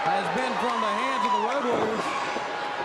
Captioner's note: crowd cheering